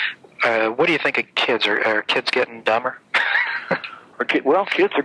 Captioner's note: laughs